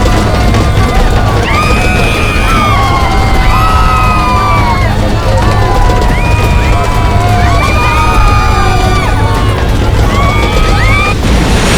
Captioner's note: screaming; screaming